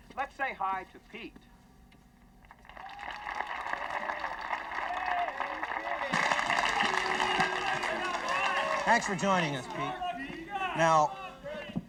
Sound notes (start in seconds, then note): 2.4 audience applauding